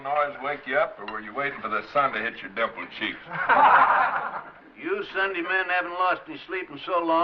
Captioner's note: laughter